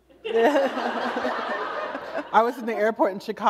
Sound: laughter

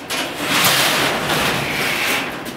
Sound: door opens

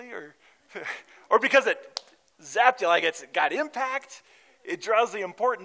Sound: hits hands together

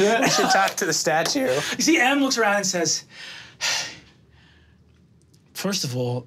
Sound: sighs

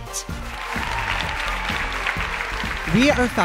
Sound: cheers and applause

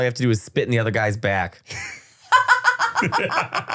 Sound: laughing

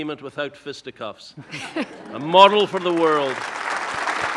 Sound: audience laughing; audience applauding

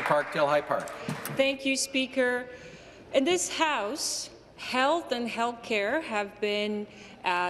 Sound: some Applause

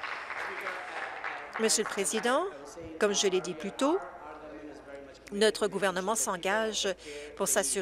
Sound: applause

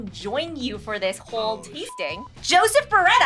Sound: beep

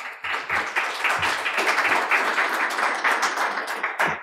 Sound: audience applauds

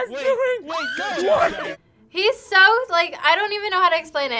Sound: player screams

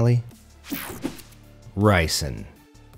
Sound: image whooshing

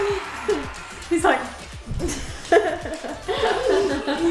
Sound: laughing

